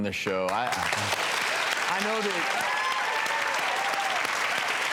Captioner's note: applause